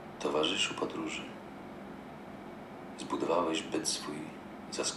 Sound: foreign language

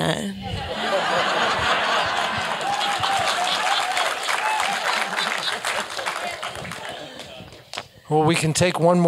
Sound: laugh; applause

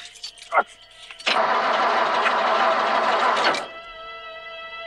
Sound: engine sputtering; dramatic music

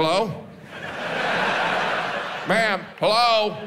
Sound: audience laughs

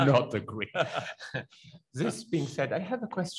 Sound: laughs

